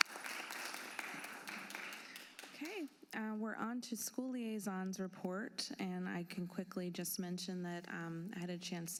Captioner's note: applause